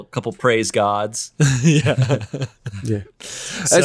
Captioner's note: laughs